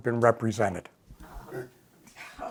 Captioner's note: coughing